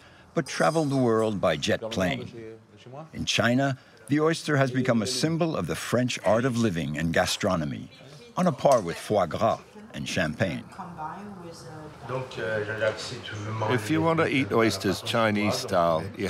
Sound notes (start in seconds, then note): 2.7 speaking in foreign language; 12.9 speaking in foreign language